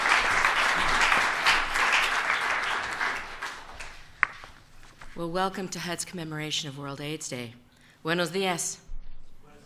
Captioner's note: applause